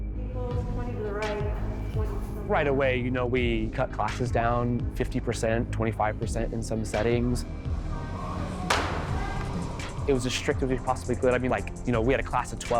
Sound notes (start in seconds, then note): 0.0 slow, quiet, dramatic music; 1.6 talks quietly; 7.7 machine roaring; 7.7 woman coaching far away; 8.6 hard clapping